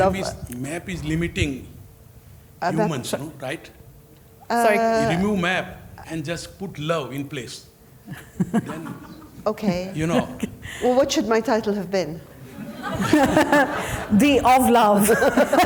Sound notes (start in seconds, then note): 8.1 audience members chuckling; 12.3 audience members laughing; 12.7 laughing